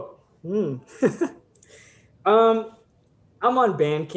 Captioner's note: laughter